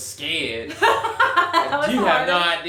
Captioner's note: laughing